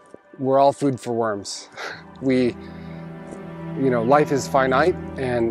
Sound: solemn music begins; chuckles

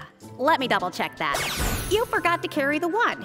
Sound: magic effect

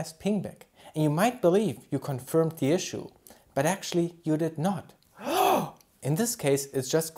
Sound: shock

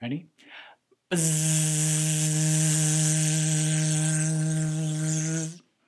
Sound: buzzing sound

